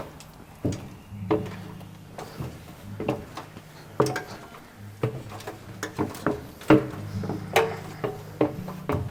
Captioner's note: stairs creaking